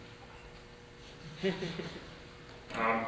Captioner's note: snickering